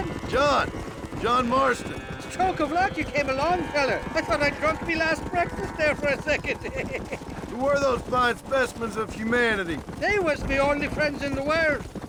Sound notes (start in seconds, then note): 6.7 laughs